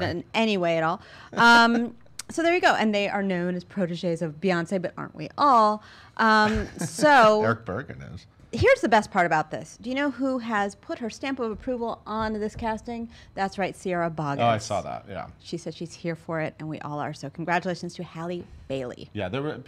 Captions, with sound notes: in any way at all. - Sorry. - So there you go. And they are known as protegees of Beyonce but aren't we all? - (laughs) Erich Bergen is. - Here's the best part about this. Do you know who has put her stamp of approval on this casting? That's right, Sierra Boggess. - Oh, I saw that, yeah. - She said she's here for it and we all are, so congratulations to Halle Bailey.